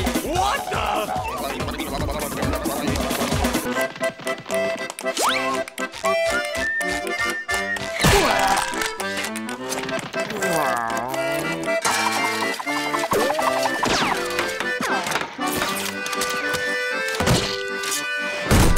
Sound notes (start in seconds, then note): 7.9 crashing; 10.2 groaning; 13.1 spinning